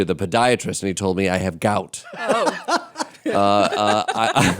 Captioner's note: laughter